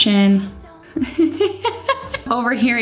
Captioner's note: chuckles